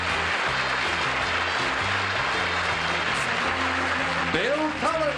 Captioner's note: applause